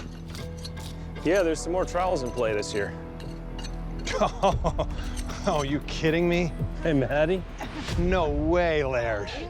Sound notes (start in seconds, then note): 4.0 chuckles; 6.8 chuckling, grunting